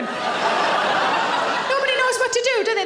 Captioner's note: audience laughing